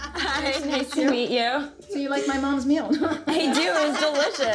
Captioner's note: chuckles